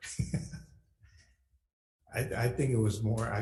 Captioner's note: laughs